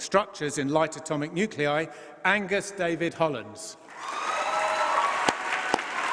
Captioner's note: applause